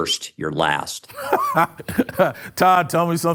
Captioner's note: laughs